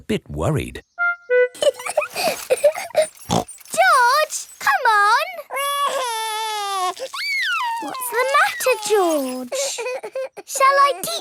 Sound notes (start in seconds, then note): 1.6 laughs and snorts; 5.3 crying